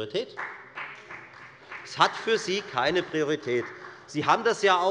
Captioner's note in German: Beifall bei der FDP